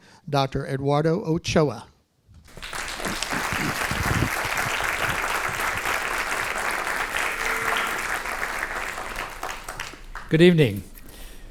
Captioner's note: applause